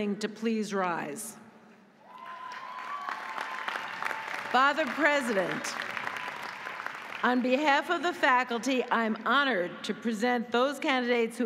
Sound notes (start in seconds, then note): 2.0 audience cheering; 2.1 audience applauding